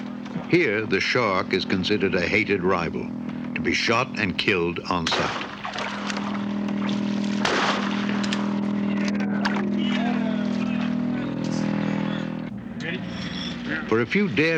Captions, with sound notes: HERE THE SHARK IS CONSIDERED A HATED RIVAL TO BE SHOT AND KILLED ON SIGHT. [GUNSHOT] YEAH! YEAH! READY? YEAH.